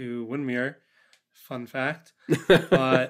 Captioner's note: laughs